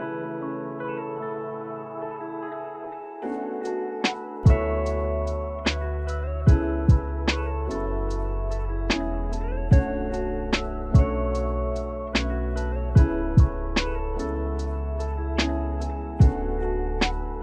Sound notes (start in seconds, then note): none